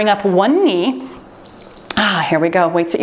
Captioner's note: timer beeps